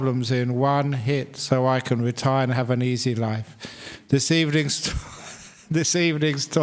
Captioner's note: laughs